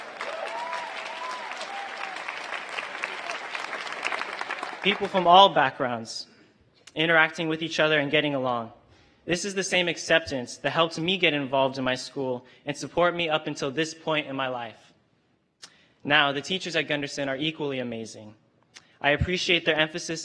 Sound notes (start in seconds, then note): 4.7 applause